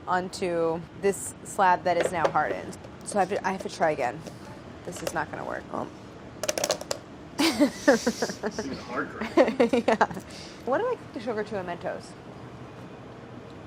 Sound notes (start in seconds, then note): 7.4 laughing